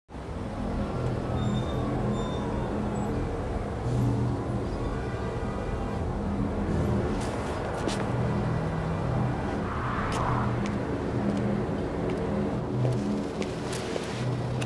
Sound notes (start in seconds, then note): 0.2 traffic noise, distant sirens; 10.0 footsteps